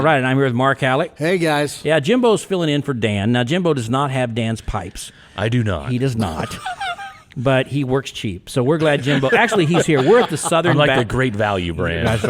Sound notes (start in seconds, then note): 6.2 podcasters chuckling; 8.8 podcasters laughing